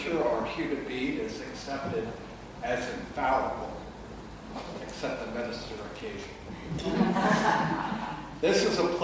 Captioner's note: congregation laughs